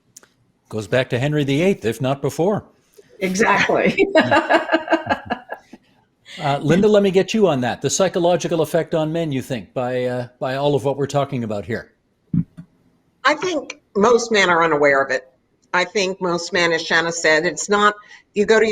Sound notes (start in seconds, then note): 6.0 laughing